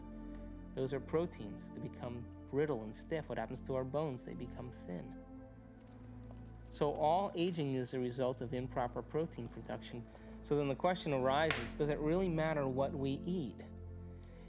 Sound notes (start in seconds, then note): none